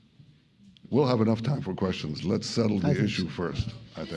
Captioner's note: laughter